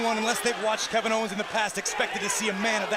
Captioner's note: crowd cheering